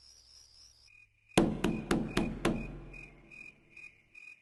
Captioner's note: knock On Door